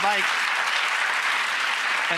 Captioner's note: audience applause